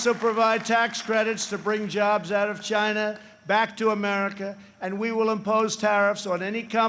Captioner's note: applause